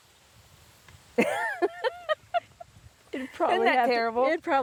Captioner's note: laughing loudly